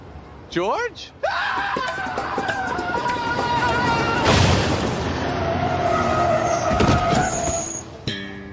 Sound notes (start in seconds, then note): 1.2 "George" yells in terror